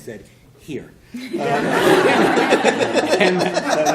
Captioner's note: laughter